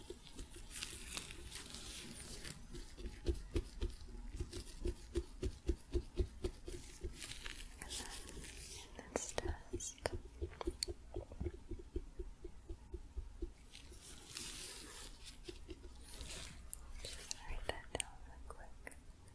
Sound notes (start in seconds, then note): 9.9 tapping; 14.2 glove sounds, then tapping